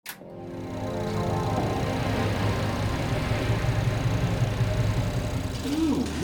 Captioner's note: video projector clicking